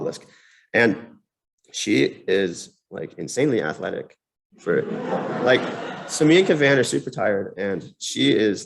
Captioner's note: laughter